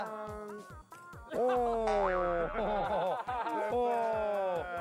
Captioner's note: groans